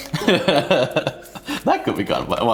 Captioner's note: laughs